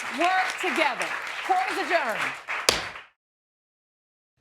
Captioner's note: audience applauding; banging gavel